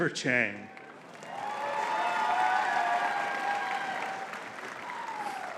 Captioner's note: audience cheering and clapping